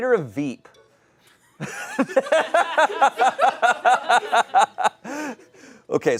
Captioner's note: audience laughing